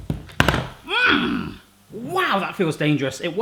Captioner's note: he grunts